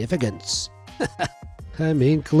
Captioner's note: chuckles